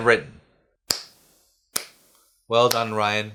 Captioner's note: slow clap